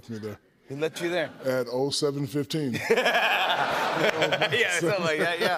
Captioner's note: laughter